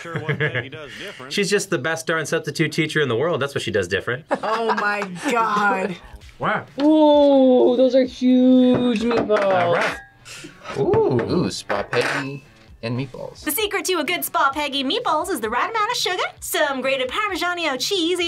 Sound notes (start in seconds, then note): 4.3 chuckles